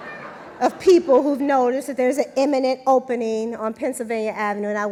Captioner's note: laughter